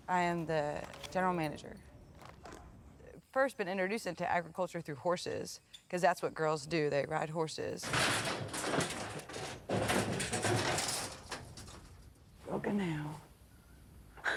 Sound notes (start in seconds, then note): 7.8 gate slamming